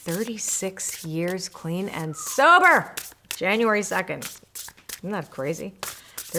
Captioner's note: person whistles